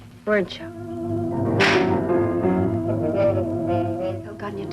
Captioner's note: hand slapping